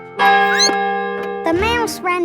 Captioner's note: squeaks; clock chimes